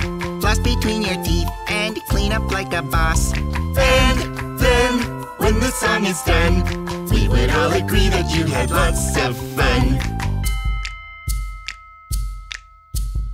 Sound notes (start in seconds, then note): 10.4 bell sound